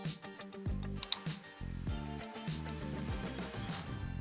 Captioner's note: click